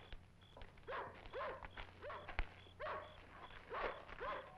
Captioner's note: dog barking